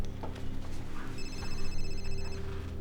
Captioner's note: phone rings